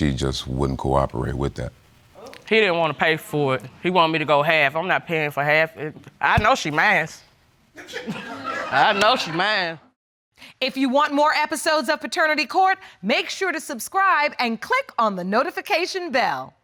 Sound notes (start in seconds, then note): 7.8 audience laughs